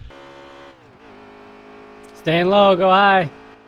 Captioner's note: engine revving